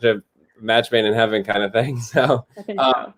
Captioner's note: laughter